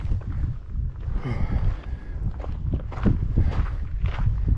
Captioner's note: sighing